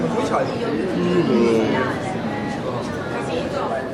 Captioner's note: yaaaaawn